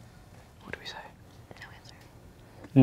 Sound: whispering

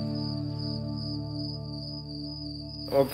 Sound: cricket sounds

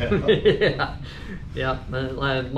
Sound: laughs

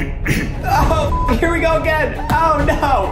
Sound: clearing throat; beep

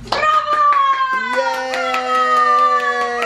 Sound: clapping

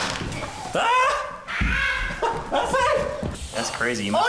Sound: child laughing; man yelling

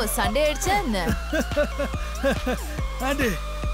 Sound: giggling

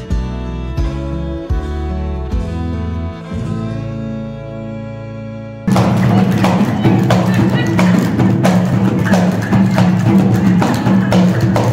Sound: applause

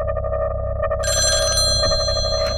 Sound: phone ringing

